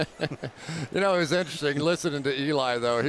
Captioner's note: laughs